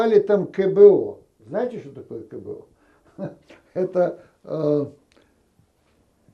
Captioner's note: laughing